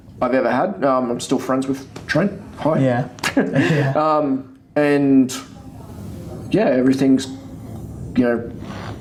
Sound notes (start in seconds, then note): 3.8 laughing